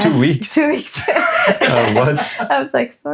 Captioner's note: laughing